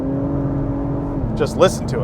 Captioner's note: engine revs